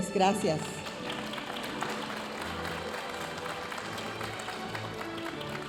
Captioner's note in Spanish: aplausos de la audiencia